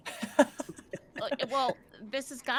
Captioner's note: people laughing